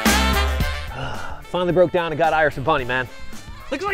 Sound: sigh

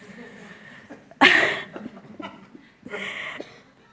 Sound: laughs

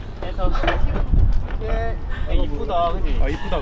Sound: laughing

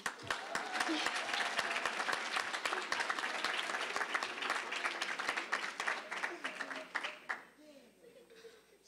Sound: applause

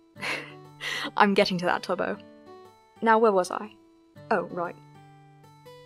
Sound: laughing good-naturedly

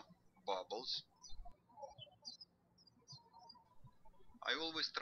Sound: birds chirping

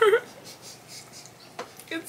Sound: laughs

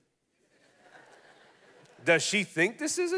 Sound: congregation laughing

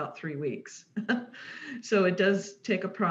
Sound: chuckles

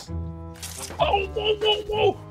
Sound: mischievous music; water gun squirts

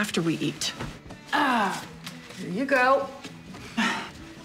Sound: sighs

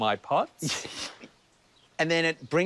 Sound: chuckles

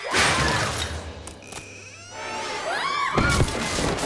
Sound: group screams

